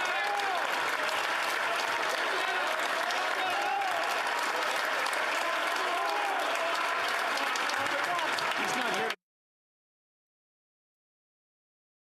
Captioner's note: applause